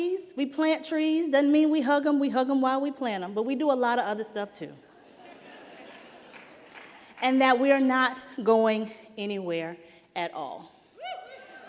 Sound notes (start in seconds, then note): 4.9 laughter